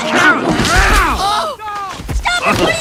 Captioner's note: grunting